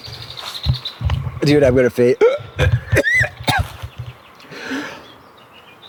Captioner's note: heaving